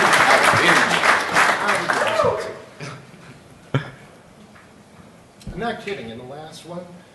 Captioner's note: applause